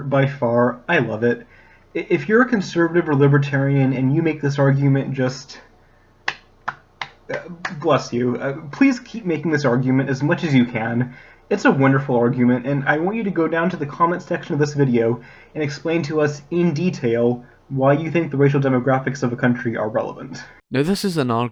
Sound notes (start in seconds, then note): 7.0 clapping